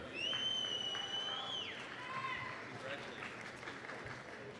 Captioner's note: applause, cheering